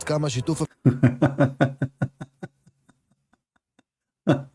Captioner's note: Ketawa